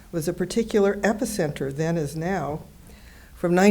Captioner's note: none